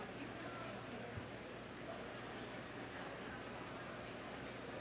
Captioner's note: crowd chattering